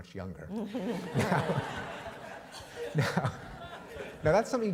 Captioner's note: laughter